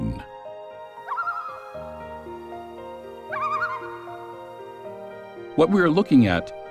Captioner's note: loon call